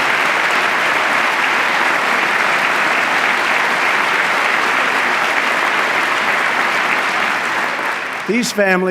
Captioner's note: applause